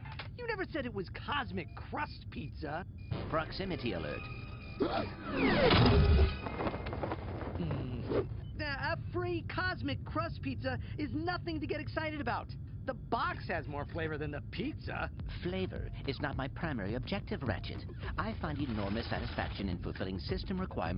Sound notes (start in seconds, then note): 4.4 yelps; 7.4 growls